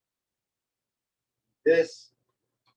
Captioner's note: silence